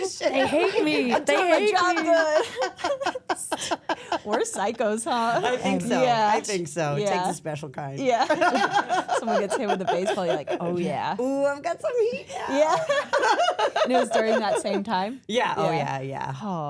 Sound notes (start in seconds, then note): 2.3 everyone laughs; 8.2 center Person laughs; 11.9 laughs; 12.5 everyone laughs